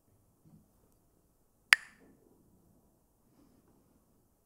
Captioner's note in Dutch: klakt met stokjes